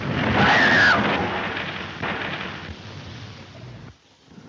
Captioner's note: car tires squeal